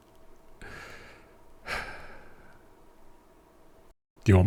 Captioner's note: sigh